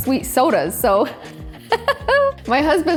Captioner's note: laughs